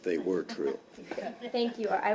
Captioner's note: laughter